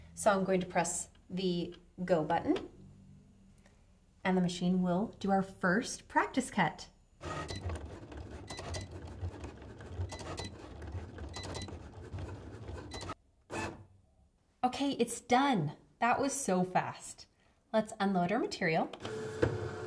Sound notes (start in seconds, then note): 7.2 machine whirring; 7.3 machine beeping